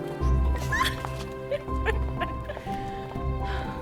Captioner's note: laughing